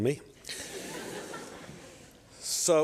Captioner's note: laughter